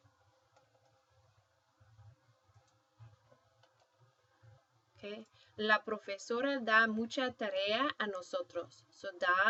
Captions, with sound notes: And her would be lay. So that's what I'm going to plug in here. OK? [speaking spanish]